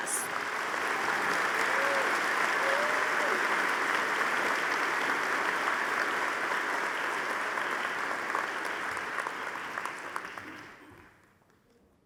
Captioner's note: audience applauding